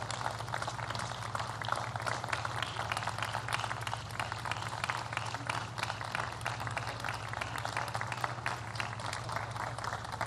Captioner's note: applause